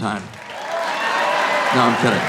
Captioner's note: audience cheering